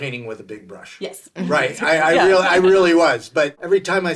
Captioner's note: laughing